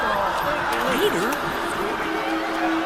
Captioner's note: muffled Cries Loudly